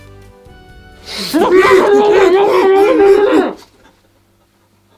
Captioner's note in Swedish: skrik